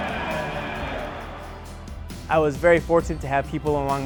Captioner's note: crowd cheering